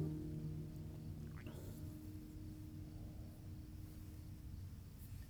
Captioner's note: insects chirping